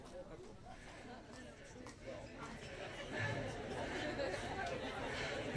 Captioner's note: audience talking among themselves